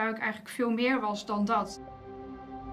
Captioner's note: speaks Dutch